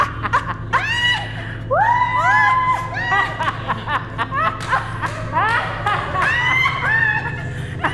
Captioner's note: performers laughing and cheering